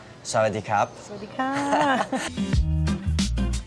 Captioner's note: foreign language; laughter; jovial music